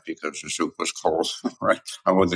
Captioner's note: laugh